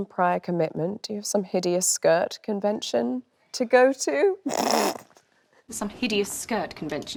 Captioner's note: laughs